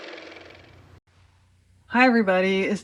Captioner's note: car motor